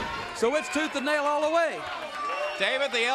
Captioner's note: crowd cheering